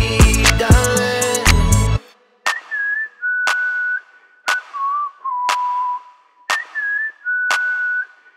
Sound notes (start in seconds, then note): 2.3 Avery whistling; 2.3 hands clapping